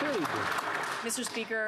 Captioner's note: some Applause